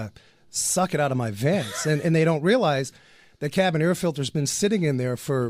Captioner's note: laughs